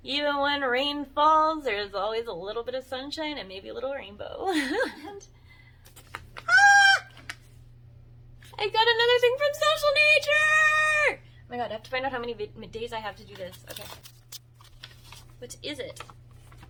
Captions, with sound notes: Even when rain falls, there's always a little bit of sunshine and maybe a little rainbow. [giggles] And -- [squeals] I got another thing from Social Nature! Oh my god, I have to find out how many m - days I have to do this. Okay. What is it?